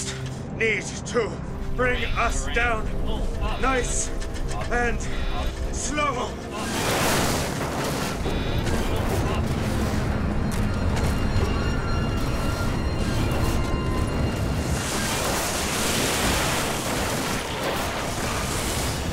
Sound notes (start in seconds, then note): 6.2 dramatic music; 7.9 metal scraping; 7.9 trees snapping